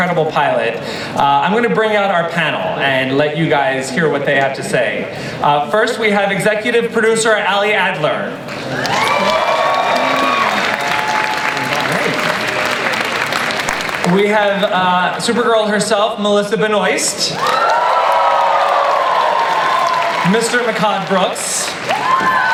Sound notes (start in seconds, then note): 8.4 audience applauds; 17.3 audience cheers and applauds